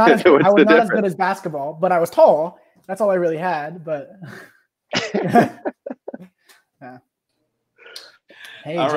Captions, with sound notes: - I was not as good as basketball but I was tall. That's all I really had but, (both laughing)